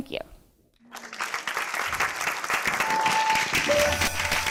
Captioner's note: applause